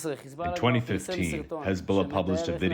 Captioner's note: through translator